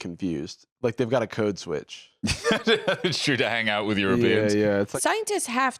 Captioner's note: laughs